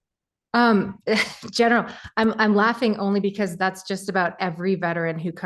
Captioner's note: laugh